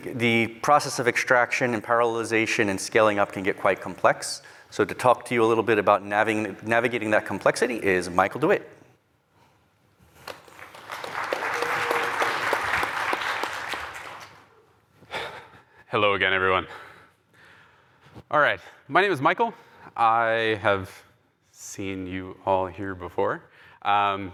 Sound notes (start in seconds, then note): 10.2 applause